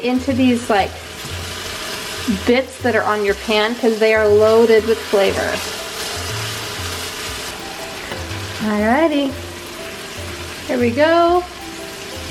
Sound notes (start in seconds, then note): 6.5 pan sizzling